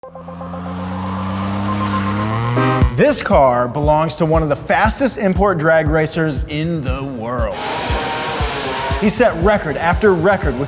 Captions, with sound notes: (engine revving) - This car belongs to one of the fastest import drag racers in the world. (engines racing) He set record after record